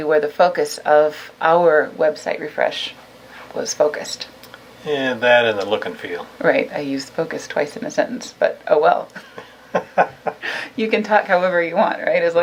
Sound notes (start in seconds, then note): 9.0 laughs